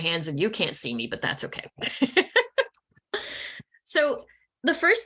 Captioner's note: laughing